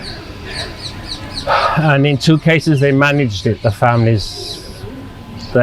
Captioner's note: sighing